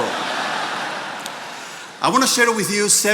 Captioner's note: attendees laughing